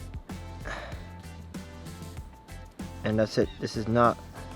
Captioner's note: breathes heavily